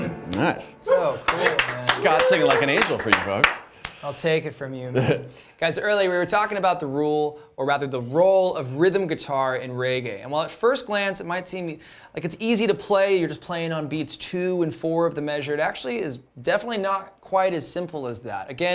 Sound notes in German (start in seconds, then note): 1.2 applaus